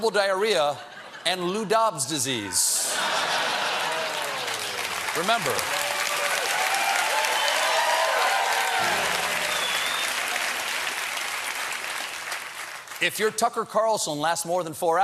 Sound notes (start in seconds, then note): 4.9 applause; 4.9 laughter; 8.8 piano riff